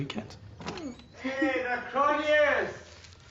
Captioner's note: giggles